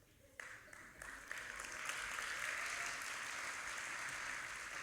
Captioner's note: audience applauding